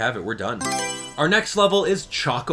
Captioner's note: Mario Selection Sound